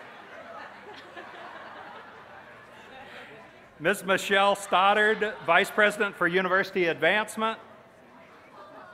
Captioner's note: cheers